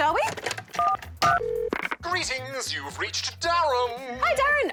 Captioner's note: buttons beep, line rings